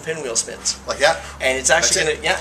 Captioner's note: blowing